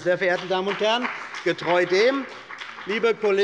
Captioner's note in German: Beifall bei der CDU und dem BÜNDNIS 90/DIE GRÜNEN